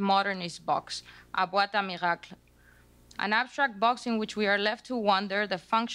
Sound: speaking spanish

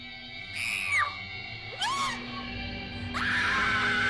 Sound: screaming

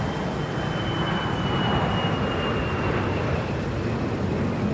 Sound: airplane passing

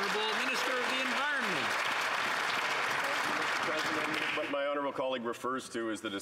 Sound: some Applause

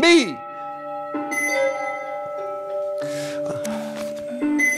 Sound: alarm continues

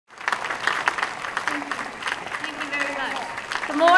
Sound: applause

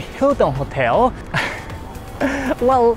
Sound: huffs

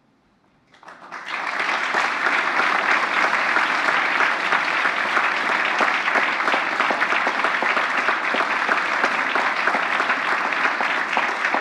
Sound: applause

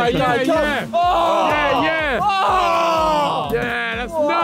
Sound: all groaning

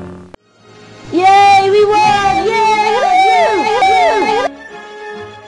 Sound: Clones cheering

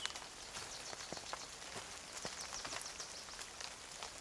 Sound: birds singing

